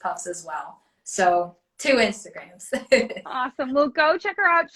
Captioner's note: laughs